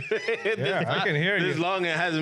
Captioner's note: laughing